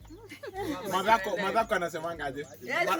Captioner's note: family & friends laughs